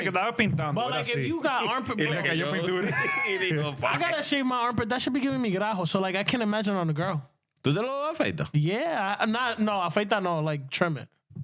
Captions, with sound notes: (Speaking In Spanish) (Laughing) I gotta shave my armpit, that should be giving me gurajo, so like I can't imagine on the girl. (Speaking In Spanish) Yeah, no, no, like trim it.